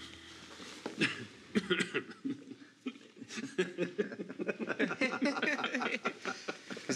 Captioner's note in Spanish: éstos tosen y ríen